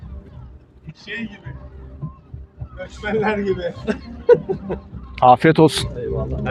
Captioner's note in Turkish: kahkaha